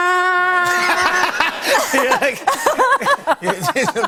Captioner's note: laughter